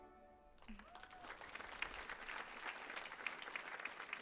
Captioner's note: audience applauds